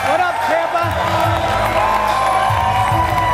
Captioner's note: audience cheering